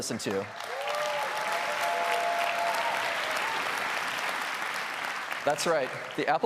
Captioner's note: applause